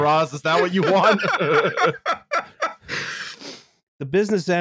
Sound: laughter

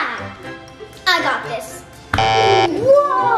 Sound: beeps buzzer

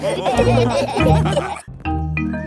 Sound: all laughing

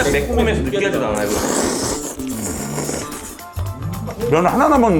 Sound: sluuuuuurp

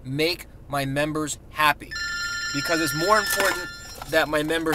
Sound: ring, ring

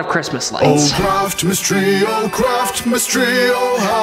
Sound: voiceover

